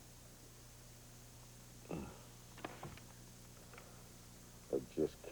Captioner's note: groaning